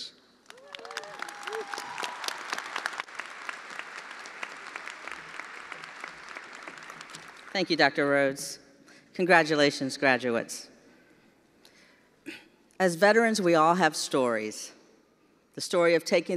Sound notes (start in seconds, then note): 4.0 attendees applauding